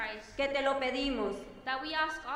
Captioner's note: speaking in foreign language